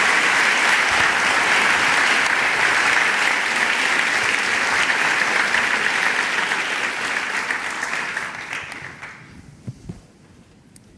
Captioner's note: applause